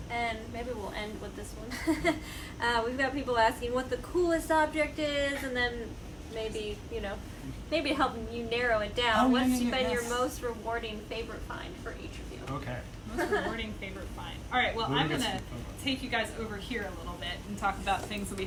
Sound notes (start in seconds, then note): 2.4 laughs